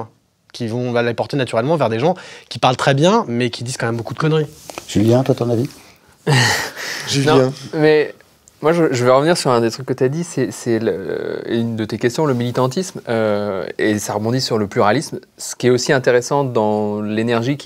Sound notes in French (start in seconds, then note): 6.8 Rire